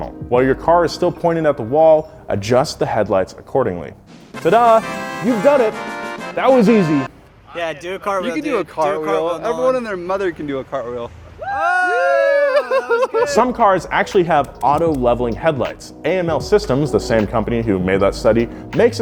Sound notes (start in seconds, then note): 11.4 crowd cheering